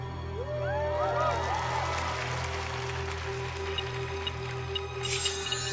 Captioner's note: cheering